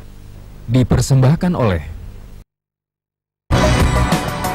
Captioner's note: non-english speech